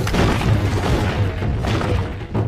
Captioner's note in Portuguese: rochas batendo